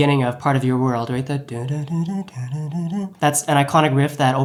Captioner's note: humming